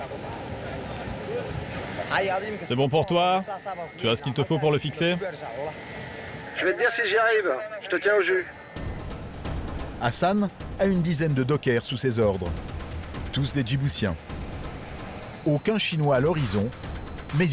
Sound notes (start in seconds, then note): 2.3 speaking foreign language; 6.9 man speaking foreign language; 14.0 intriguing music